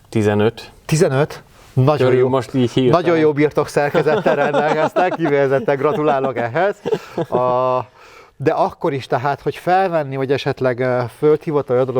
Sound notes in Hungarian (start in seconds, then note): 3.8 nevetés